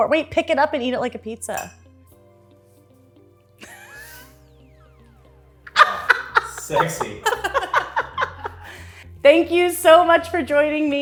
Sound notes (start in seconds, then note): 5.7 Erin laughs